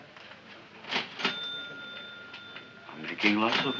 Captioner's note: cash register chiming